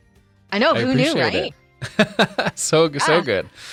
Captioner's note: laughing